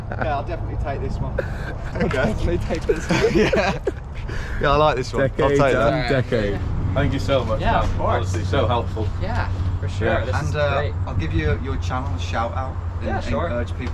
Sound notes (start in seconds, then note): 0.0 all laugh; 1.2 laughs